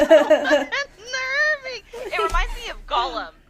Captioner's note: laughing